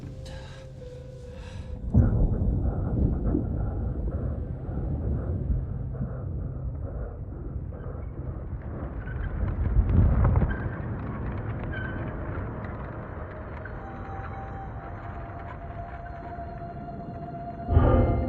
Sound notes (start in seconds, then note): 0.1 breathing hard continues; 3.8 piano music continues; 9.4 rolling thunder